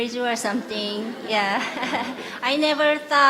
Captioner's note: questioner/Audience Laughter